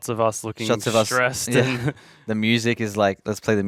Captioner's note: chuckling